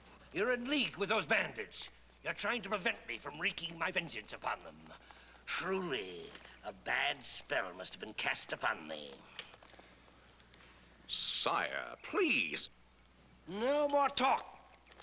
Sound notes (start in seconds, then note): none